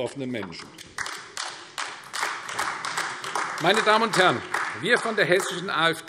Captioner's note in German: Beifall AfD